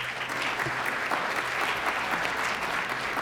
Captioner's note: applause